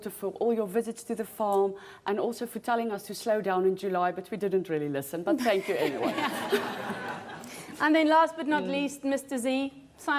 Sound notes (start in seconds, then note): 6.2 laughs